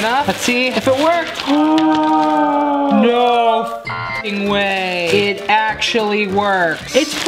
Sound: beep

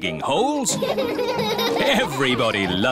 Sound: all laughing

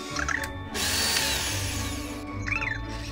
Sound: electric drill sound!

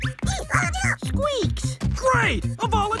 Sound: all clamoring; squeaks chatters

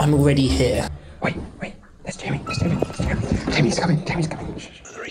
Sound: whispering

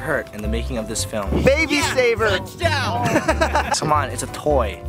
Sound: laughs

